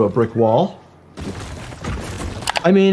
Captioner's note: bricks crash